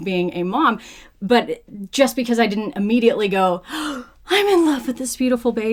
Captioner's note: gasp